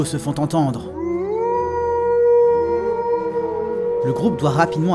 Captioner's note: Wargs' howls